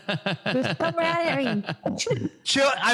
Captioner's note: laugh